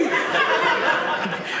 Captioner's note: audience laughing